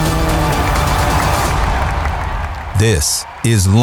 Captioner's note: engines revving; crowd cheering and applauding